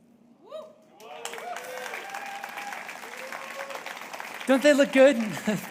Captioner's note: audience cheering and applauding